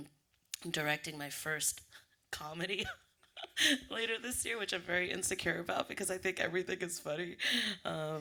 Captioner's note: laughs